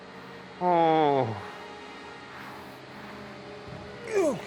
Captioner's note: moans